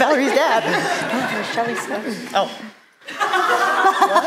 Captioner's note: whispering